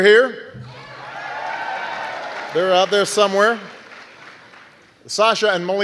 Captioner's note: soundbite of archived recording; cheering